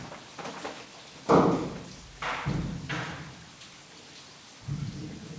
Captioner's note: rockfall echoes